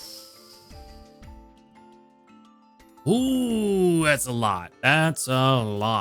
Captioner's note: inhales